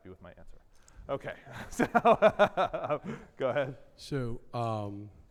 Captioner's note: laughs